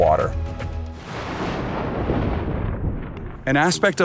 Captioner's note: thunder booming